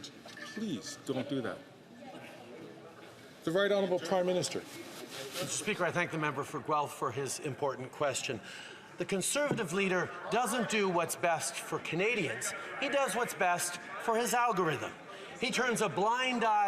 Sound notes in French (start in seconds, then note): 11.7 voix de l'interprète